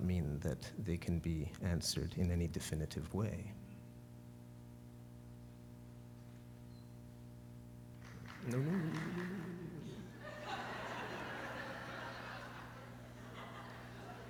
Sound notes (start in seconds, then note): 8.0 applause; 8.3 laughter